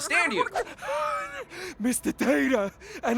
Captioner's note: gasping for breath